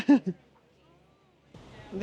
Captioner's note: laughs